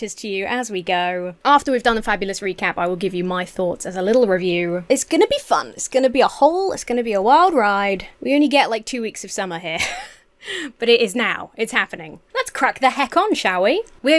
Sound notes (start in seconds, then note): 10.4 Emma wheezes